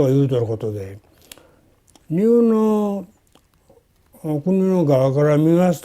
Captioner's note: speaking foreign language